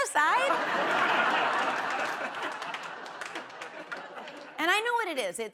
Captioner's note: laughter